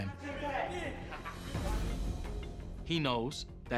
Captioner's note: laughs